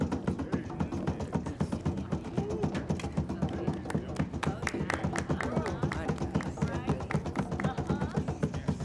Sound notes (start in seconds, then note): 5.2 clapping